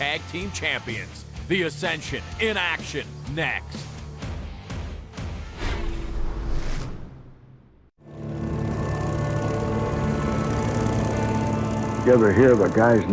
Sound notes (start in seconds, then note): none